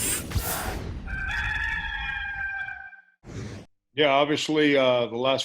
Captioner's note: loud crowing